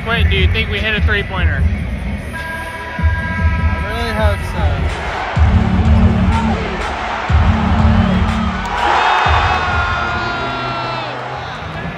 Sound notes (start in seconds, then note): 2.6 horn buzzing; 4.7 crowd cheering; 5.1 beat playing